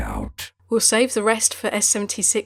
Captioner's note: voiceover